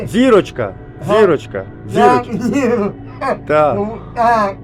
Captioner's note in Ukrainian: сміется